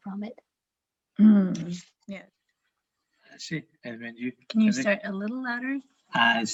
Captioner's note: quietly